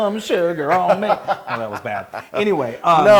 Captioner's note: laugh